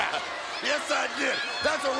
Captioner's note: chuckles